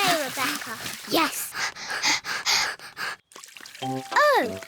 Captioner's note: both panting